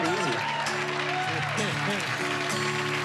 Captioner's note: cheering and applause; chuckling